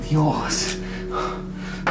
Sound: smacking

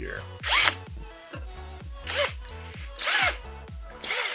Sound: drill noise

